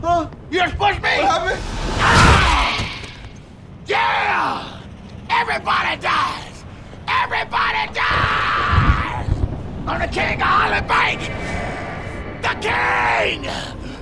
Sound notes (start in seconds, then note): 7.2 thunder rumbles